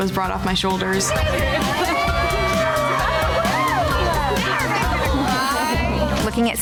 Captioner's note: upbeat music; women cheering